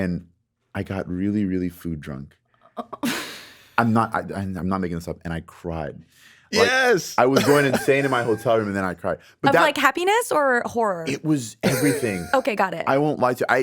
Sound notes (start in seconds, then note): 3.0 chuckles; 7.2 laughs; 11.6 Justin chuckles